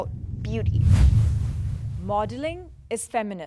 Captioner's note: percussive whoosh